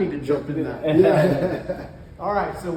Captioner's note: laugh